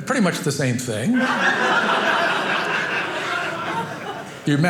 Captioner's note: audience laughing